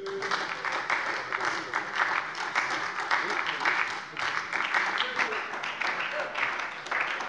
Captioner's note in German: Beifall bei der SPD